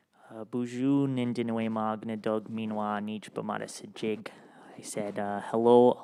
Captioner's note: speaks in Ojibwemowin